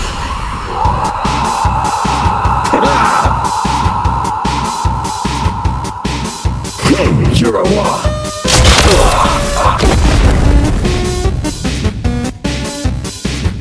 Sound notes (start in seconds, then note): 0.1 skeleton with hair screams